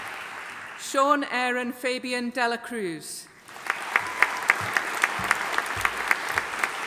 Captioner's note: audience applauding